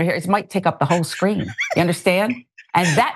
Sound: laugh

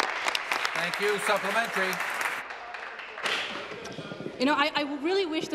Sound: applause

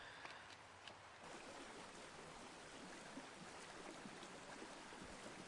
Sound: water flowing over rocks

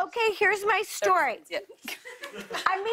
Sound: light laughter

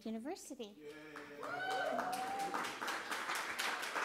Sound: applause

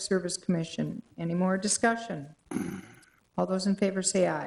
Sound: man clearing throat

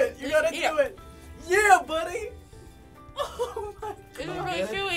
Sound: laughing

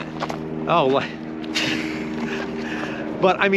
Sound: chuckles

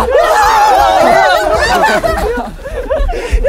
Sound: laughing

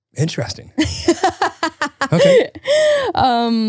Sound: laughs

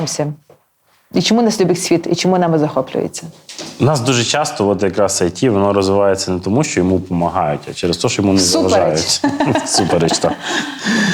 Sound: laugh

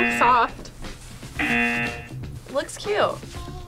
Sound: buzzer rings

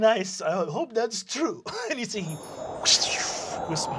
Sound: imitates wind blowing

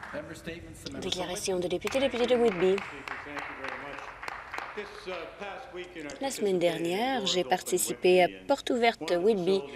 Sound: some Applause

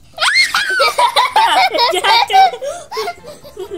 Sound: laughs

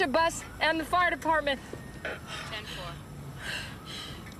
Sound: siren wails in distance

